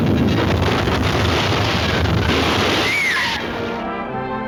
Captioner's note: screaming; pleasant orchestra music